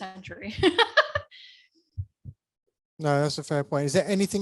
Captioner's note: laughing